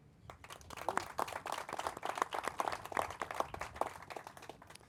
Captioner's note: crowd applauding